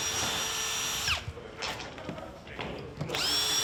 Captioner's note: drilling